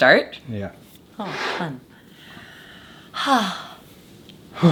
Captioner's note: sighs